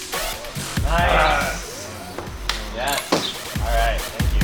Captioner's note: clapping